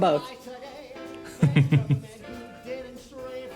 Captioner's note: laughs